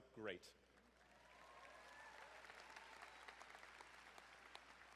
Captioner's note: crowd applauding